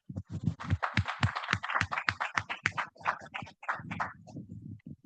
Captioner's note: audience clapping